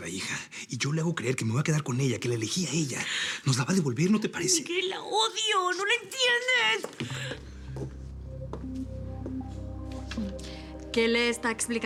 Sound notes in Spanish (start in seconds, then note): none